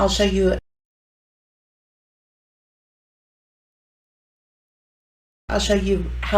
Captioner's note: silence